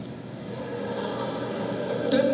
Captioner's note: laughter